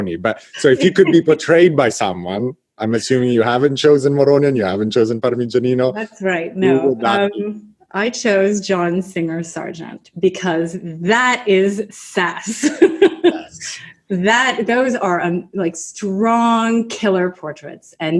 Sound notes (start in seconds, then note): 12.4 laughs